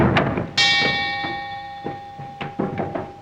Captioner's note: clock strikes